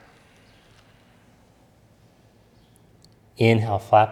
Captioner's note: exhales deeply